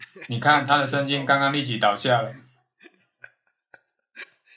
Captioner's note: laughs